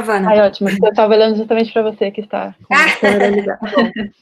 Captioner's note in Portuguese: risos